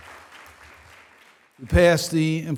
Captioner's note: applause